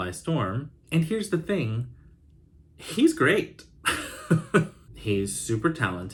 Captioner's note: chuckles